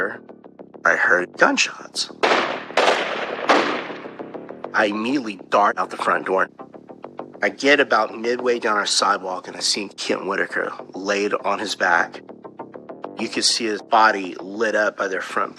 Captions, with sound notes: I was s sisittining g at m my. I hehearard gugunsnshot. [gunshots banging] I immediately dart out t ththe frfronont do. I I geget ababouout miy do downwn ourur s sidew, and d I I see e KeKent W Wr lalaidid on n hihis bab. Yo You u coululd d see e hihip by by t theirir f frontnt p .